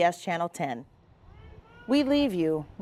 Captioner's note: firemen chanting